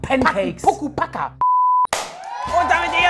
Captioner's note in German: Piepton